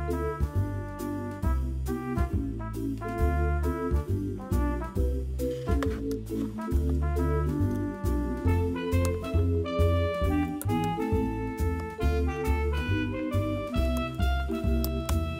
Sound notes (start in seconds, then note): 9.6 gentle hand washing